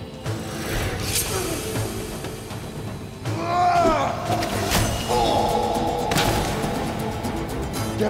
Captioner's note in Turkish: Dövüş sesleri